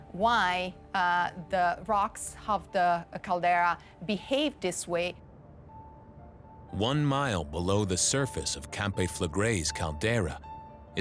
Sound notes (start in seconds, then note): none